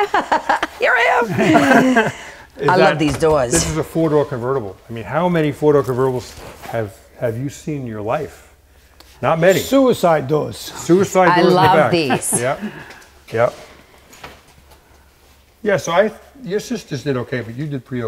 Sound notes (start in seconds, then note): 0.0 laughing